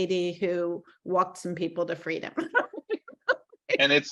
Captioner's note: laughing